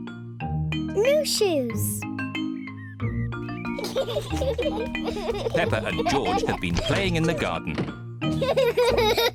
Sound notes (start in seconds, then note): 3.7 both giggling